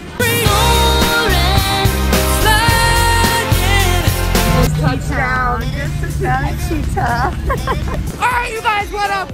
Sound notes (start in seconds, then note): 7.4 laughs